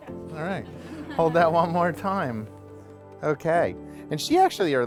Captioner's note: laughter